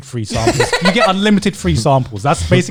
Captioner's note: laughing